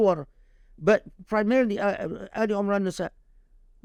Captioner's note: speaking Arabic